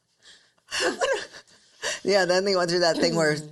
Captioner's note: both laughing